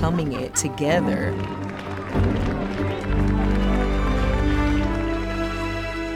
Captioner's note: everyone clapping